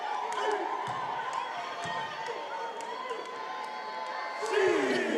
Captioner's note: attendees cheering